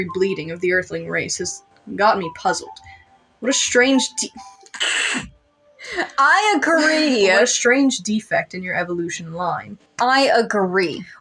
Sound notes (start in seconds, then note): 5.8 snicker